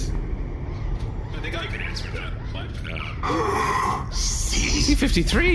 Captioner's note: sighs